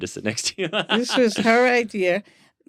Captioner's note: laughter